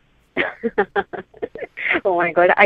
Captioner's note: laughs